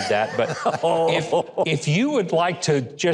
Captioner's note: Rich laughing; audience laughing